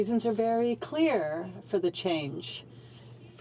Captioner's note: speaking French